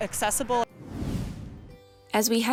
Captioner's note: swoosh sound effect